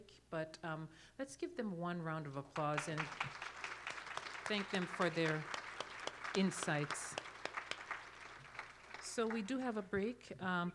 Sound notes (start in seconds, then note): 7.1 applause